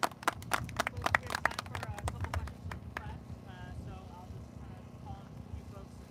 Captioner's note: applause